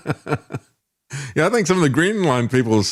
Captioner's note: laughing